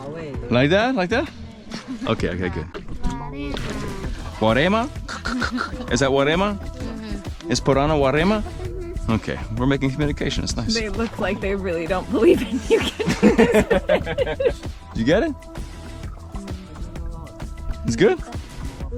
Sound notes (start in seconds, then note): 12.6 laughing